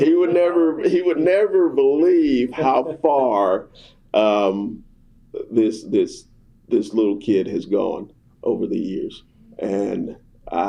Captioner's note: laughter